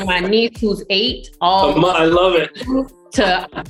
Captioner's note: laughing